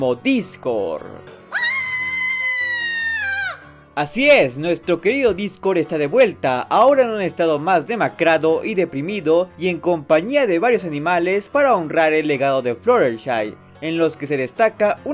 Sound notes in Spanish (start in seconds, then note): 1.5 Gritos de perra loca